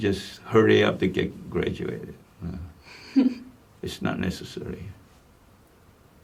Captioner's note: laughs